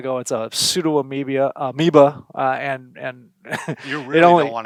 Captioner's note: laughs